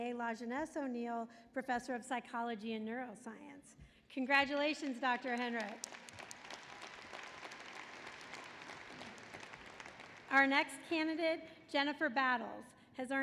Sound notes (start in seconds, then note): 5.9 applause